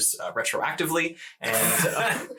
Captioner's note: all laugh